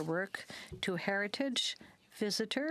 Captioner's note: speaking French